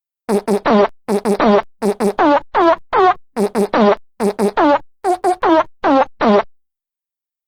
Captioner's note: rhythmic farts